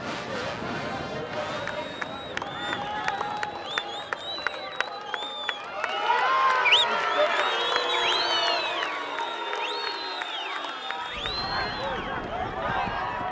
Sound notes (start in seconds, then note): 1.3 crowd clapping; 5.4 crowd cheering